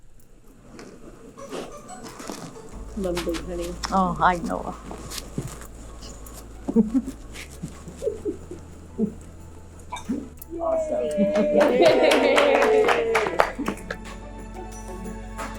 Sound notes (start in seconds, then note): 6.6 both laughing; 10.5 claps and cheers